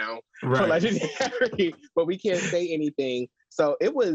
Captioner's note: laughs